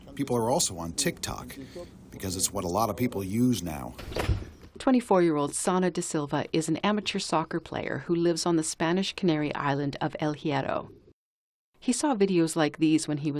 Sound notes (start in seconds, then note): 5.2 voice-over